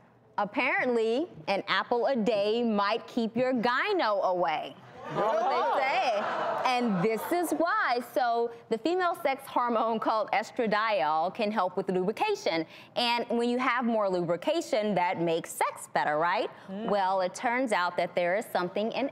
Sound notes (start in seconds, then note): 5.0 audience gasps